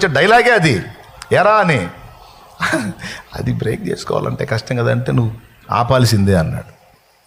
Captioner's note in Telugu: నవ్వు